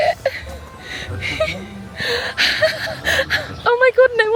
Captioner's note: laughing